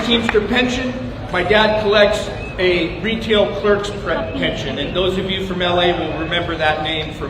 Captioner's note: applause